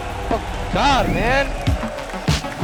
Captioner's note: in English; exciting music playing